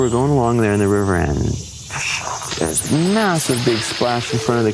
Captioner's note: splash